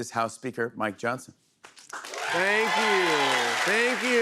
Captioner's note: cheers and applause